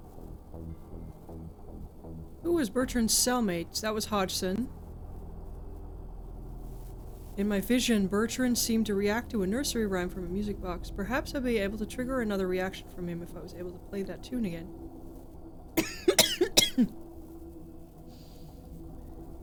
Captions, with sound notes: Who was Bertrand's cellmates? That was Hodgson. In my vision, Bertrand seemed to react to a nursery rhyme from a music box. Perhaps I'll be able to trigger another reaction from him if I was able to play that tune again. [coughing]